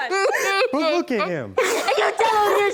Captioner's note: sobbing